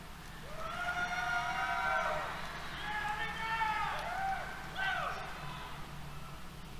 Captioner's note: applause, Cheers